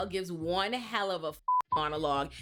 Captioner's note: beep